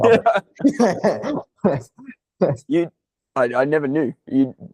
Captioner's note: laughing